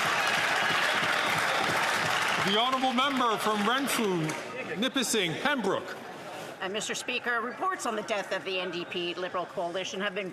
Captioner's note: some Applause